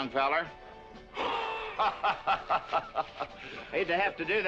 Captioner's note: men laughing